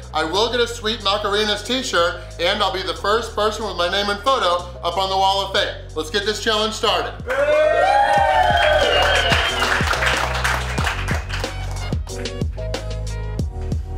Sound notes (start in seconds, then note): 7.2 audience cheers and applauds; 11.3 upbeat music